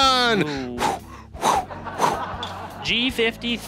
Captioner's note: audience laughing